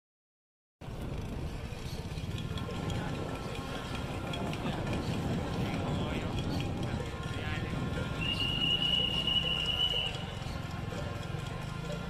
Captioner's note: street noise